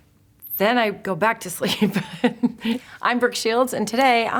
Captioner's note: chuckling